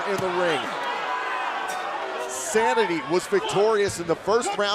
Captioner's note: crowd chatter